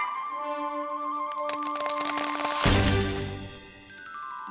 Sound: ice is unfreezing

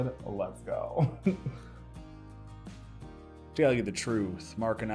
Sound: chuckles

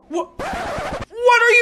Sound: record scratch 💿💿💿💿💿💽💽💽

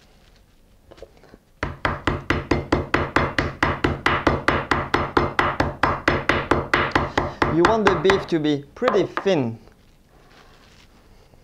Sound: pounding sounds

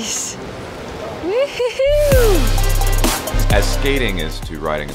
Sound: whoops

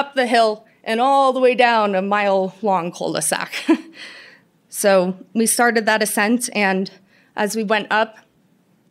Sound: laughter

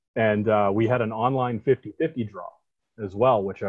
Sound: none

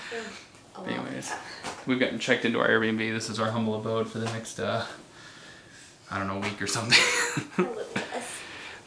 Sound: laugh

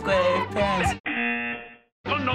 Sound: singing along; buzzer

